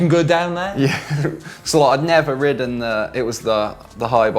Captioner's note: laughing